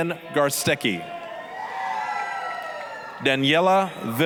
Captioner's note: applause, cheering